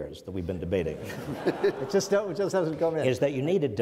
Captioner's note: audience laughs